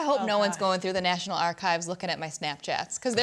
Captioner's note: laughs